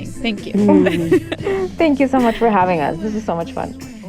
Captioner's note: laughter